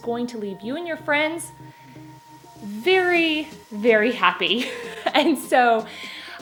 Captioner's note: laughs